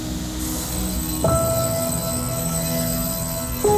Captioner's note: table saw cutting